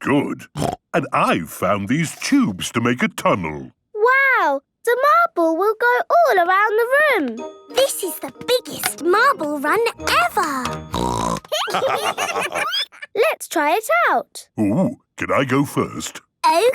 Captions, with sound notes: - Very good. And I've found these tubes to make a tunnel. - Wow! The marble will go all around the room! - This is the biggest marble run ever! (snorting) (laughter) - Let's try it out. - Ooh, can I go first?